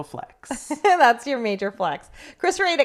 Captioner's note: laughs